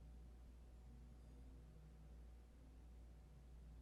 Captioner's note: none